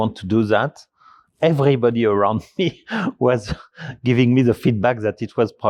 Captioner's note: chuckles